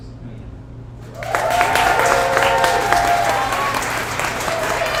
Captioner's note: audience applauds